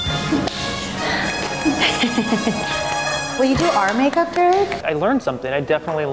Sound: laugh

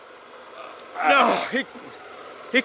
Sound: both gasp

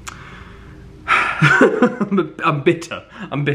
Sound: sighs and laughs

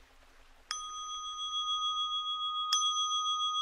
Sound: bell ringing

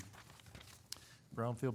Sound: papers rustling

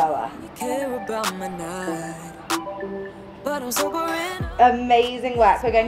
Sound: timer beeping

